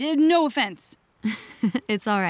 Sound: laughing

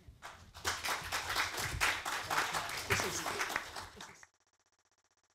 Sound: applause

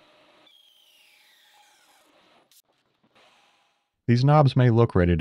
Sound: lathe machine whirring

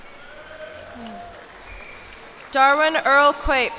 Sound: cheers and applause

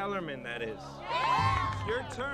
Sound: all cheering

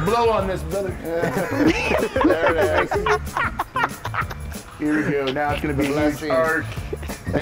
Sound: laugh

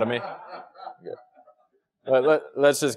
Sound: laugh

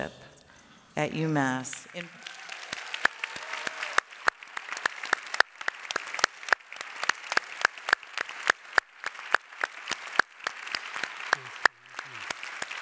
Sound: applause

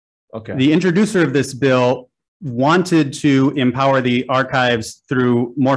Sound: none

